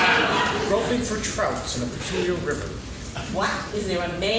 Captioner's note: laughing